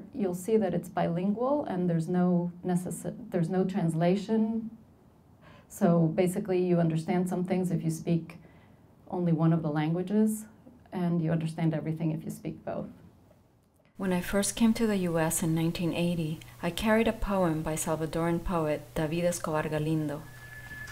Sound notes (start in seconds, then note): 14.0 voiceover